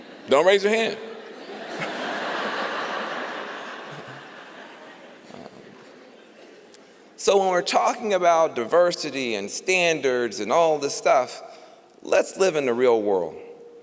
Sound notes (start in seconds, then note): 1.1 laughter